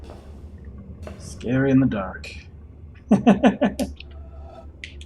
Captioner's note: chuckles